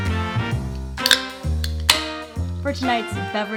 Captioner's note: mellow jazz music continues; can clicks open